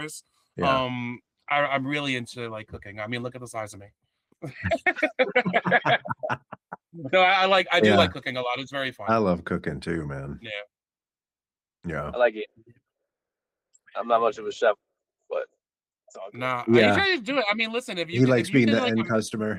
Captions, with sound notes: I'm really into like cooking, I mean, look at the size of me. (Laughing) So I like, I do like cooking a lot, it's very fun. I love cooking too man. Yeah. Yeah. I like it. I'm not much of a chef, but. No, I mean, you can't just do it, I mean listen if you-- He likes being the end customer.